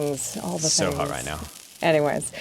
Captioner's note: sizzling